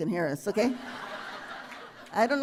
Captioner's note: laughter